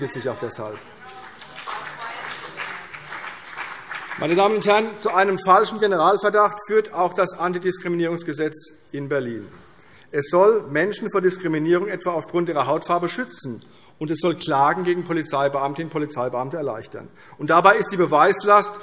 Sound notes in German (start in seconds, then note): 2.2 Vereinzelter Beifall CDU und BÜNDNIS 90/DIE GRÜNEN